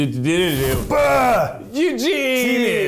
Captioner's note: rustling